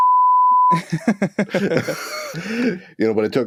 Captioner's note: laughter